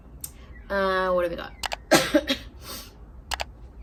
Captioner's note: coughs and sniffs